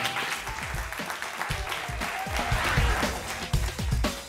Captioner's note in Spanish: Aplausos